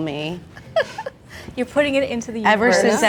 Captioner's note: laughs